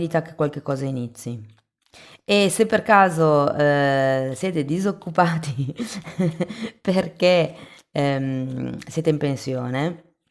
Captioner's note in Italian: risate